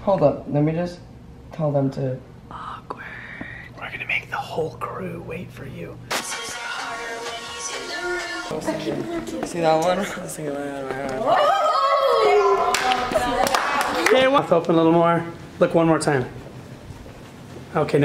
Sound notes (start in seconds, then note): 11.2 girls scream